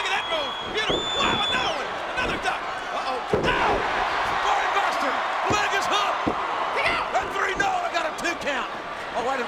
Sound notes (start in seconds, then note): 5.2 audience cheers